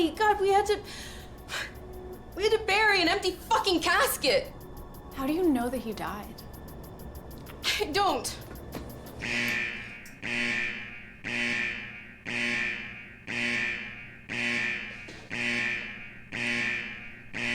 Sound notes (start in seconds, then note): 9.4 alarm ringing